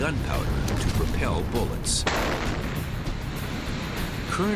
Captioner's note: explosion